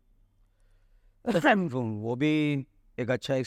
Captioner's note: coughs